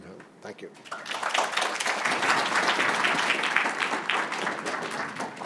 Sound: applause

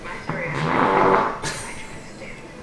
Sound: fart noise; laughter

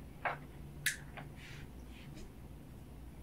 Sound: lamp clicks back on

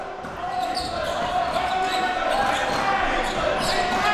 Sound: crowd cheering

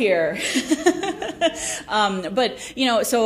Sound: laughs

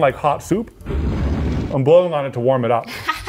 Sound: fire rustling

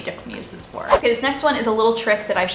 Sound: air whooshing

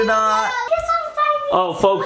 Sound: child exclaiming

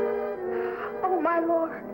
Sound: gasp

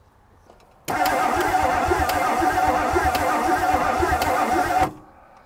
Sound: vehicle engine humming

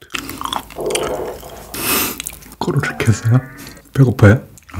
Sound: rumbling

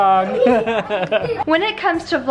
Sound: laughing

